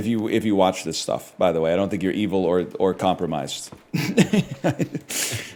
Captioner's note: laughs